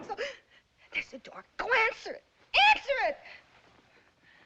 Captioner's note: knocking; gasps